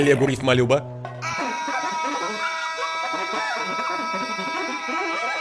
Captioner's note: <i>sustained yelling</i>